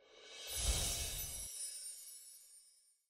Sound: air whooshes

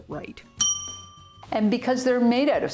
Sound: bell dinging

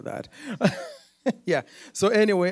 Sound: laughs

